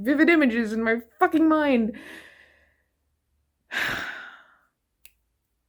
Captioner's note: sighs